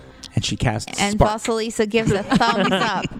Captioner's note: laugh